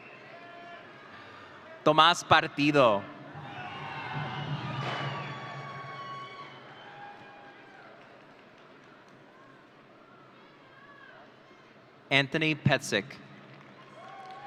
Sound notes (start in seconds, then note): 3.2 audience cheering; 13.7 audience cheering